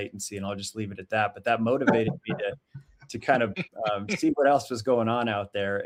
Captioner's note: laughing